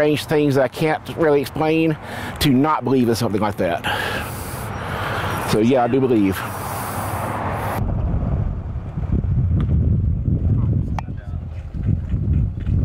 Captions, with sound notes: that I can't really explain to not believe in something like that. So yeah, I do believe. (loud wind blowing)